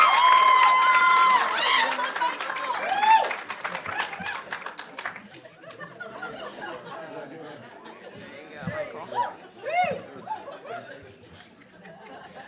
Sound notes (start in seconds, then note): 6.3 audience laughing